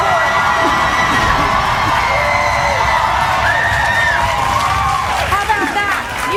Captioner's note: audience applauding; audience cheering